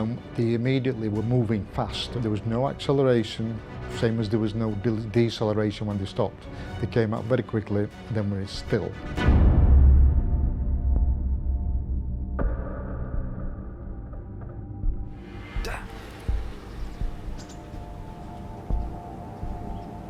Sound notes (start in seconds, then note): 15.5 engine whirring